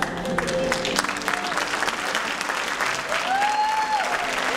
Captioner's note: applause and cheering